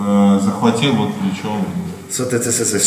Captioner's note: speaking in a foreign language